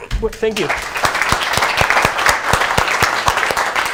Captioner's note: applause